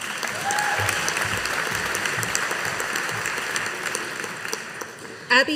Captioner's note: audience applauding